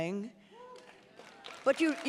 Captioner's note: audience applauding and cheering